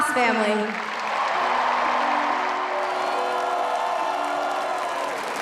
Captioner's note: applause